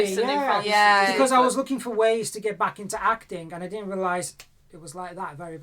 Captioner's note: clicks fingers